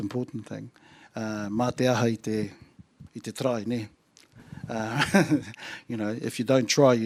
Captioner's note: chuckles